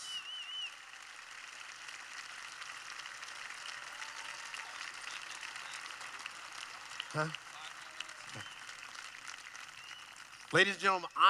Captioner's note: applause